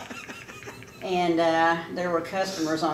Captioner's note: laughing